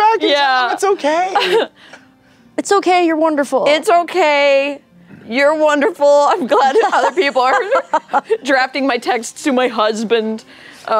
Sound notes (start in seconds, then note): 6.5 laughing; 6.6 laughter